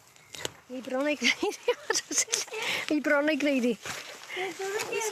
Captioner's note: laughs